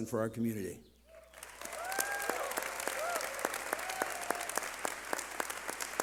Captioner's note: cheering